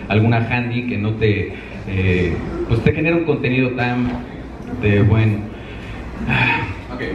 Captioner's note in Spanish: suspiro